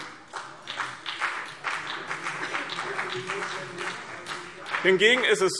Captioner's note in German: Beifall BÜNDNIS 90/DIE GRÜNEN und CDU